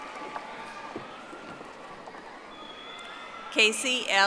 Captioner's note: audience applauding